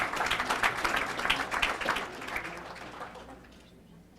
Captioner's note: applause